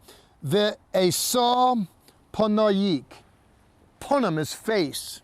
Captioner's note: speaking in Hebrew